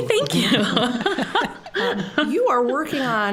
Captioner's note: all laughing